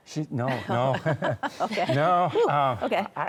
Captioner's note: chuckles; laughs